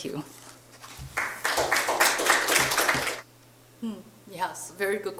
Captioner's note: audience applauding